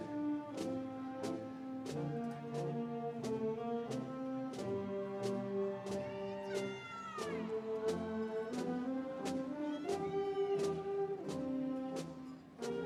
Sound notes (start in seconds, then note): 6.0 audience cheering